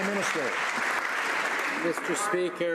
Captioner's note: some Applause